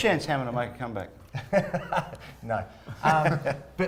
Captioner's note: laughing